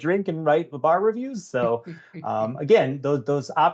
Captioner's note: giggling